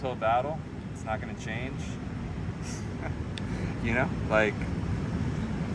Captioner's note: laughs